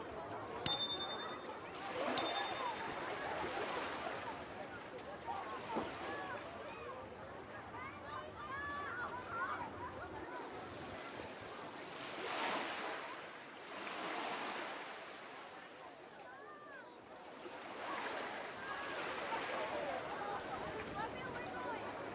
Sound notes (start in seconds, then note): 0.0 ringing; 1.4 water lapping; 4.1 background chatter; 10.3 water lapping; 16.2 background chatter; 21.0 water lapping